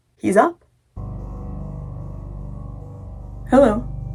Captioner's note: ambient droning sounds